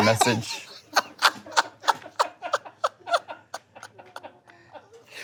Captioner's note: laughs